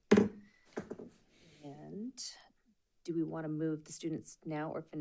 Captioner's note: gavel clacks